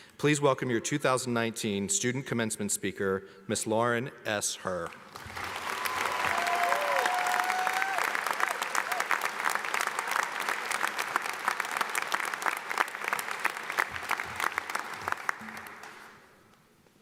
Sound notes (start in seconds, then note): 5.3 audience applauds